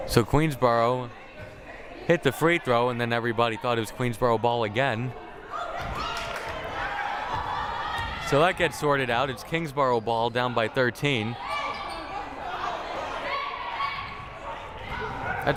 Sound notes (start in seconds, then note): 5.6 coaches shouting; 12.1 crowd murmuring